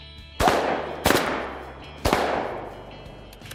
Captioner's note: booming